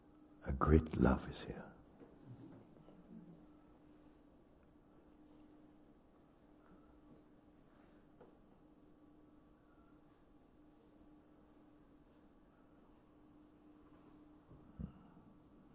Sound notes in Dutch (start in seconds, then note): 6.1 stilte